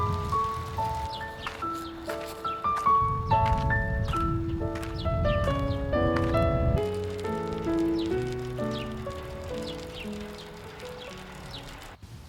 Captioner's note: the sound you hear walking along the fields.mp3